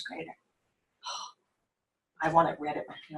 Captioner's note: sighs